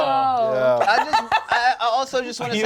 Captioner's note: laughs